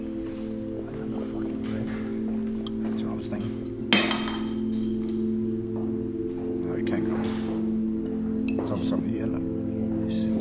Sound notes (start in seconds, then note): 0.8 murmuring; 3.9 dishes clanking